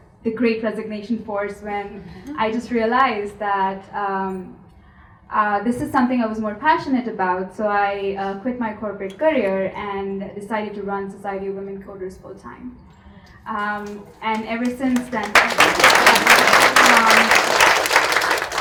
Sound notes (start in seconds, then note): 14.3 audience applauds